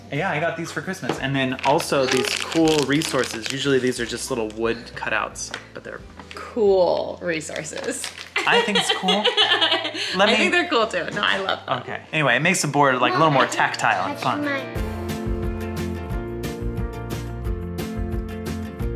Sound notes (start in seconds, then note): 8.4 laughing; 14.8 upbeat music